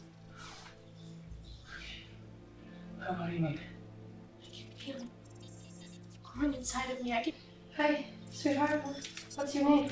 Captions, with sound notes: [robotic beeps] Wha... What do you mean? I can feel it growing inside me. I can... [robotic beeps] Hey sweetheart, what's your name?